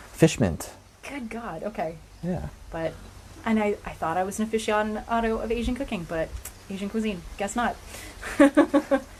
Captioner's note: laughter